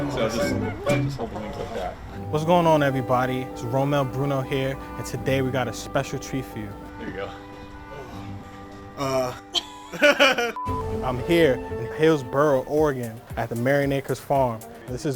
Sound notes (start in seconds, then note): 9.0 laughs